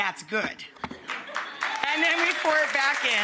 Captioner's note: audience laughs and claps